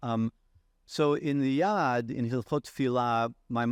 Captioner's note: speaking in foreign language